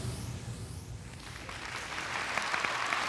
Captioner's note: applause